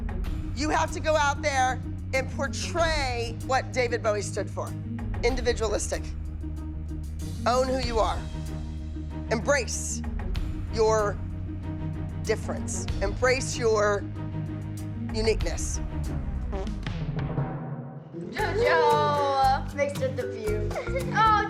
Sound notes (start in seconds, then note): 16.4 JoJo farts